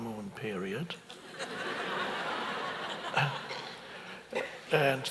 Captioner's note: audience laughs